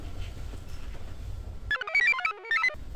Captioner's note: computer chirps; device beeps